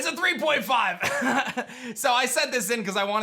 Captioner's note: chuckles